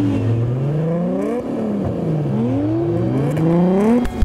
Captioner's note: 2JZ Revving